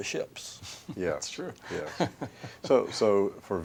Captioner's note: laughter